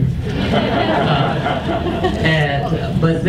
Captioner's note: audience laughs